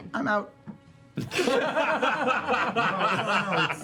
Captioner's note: laughter